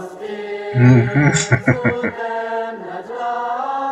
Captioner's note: chuckling